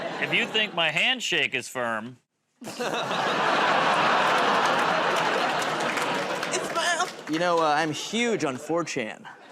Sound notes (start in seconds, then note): 2.6 laughter